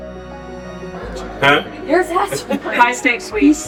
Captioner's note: laughs